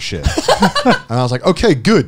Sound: chuckling

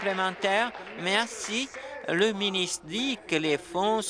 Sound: applause

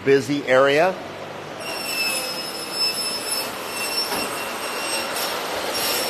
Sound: power tools whirring

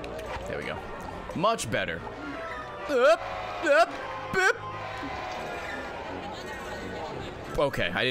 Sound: stress noises

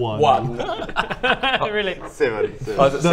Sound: laughs

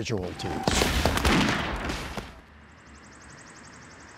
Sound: guns firing

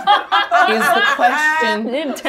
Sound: laughs

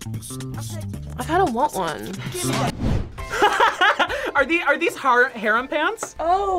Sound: laughs

